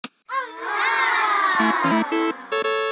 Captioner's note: kids oohing and aahing